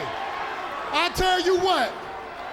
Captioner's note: crowd cheering